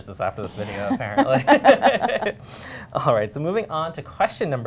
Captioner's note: laughter